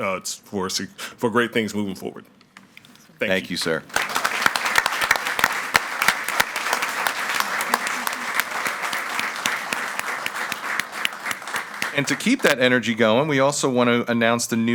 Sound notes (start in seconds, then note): 4.0 all applauding